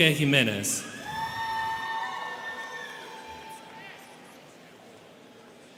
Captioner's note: students cheering